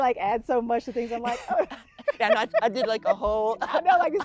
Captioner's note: laughing